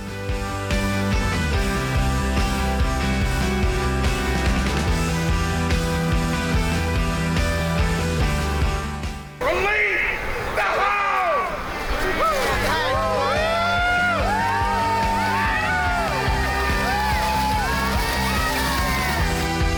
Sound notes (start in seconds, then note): 0.1 pleasant music; 11.5 people chattering distantly; 13.8 people cheering; 17.4 sleds swishing; 19.6 pleasant music intensifies